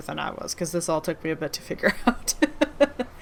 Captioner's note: laughs